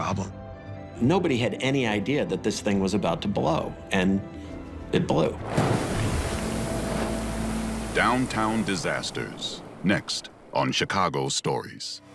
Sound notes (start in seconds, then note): 5.4 water gushing